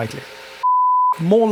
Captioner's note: buzzing